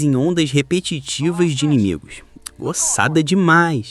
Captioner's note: laughs